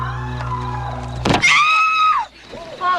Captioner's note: woman screaming